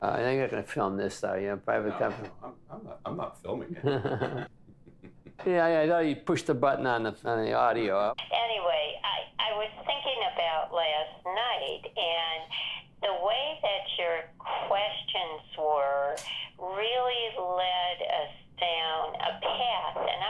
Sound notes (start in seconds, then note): 3.7 both laugh; 7.7 on Speakerphone